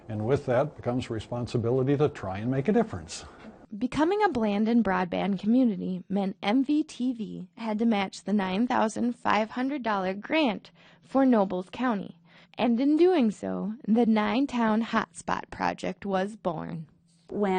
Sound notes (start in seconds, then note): 4.1 voiceover